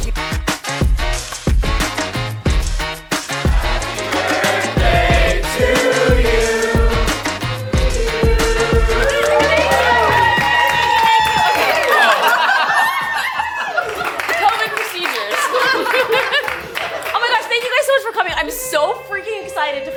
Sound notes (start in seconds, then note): 0.1 party music; 3.5 crowd; 8.9 crowd cheers; 12.2 crowd laughing; 15.4 crowd and laughing